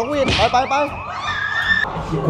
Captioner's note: screams